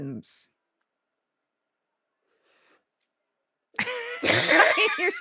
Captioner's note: both laughing